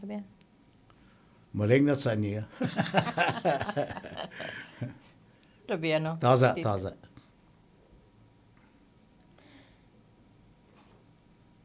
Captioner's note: laughing